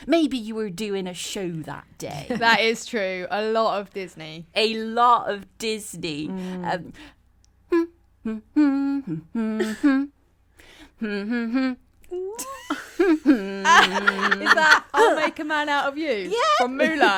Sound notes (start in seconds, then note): 6.0 starts trying to hum the tune; 10.3 all laugh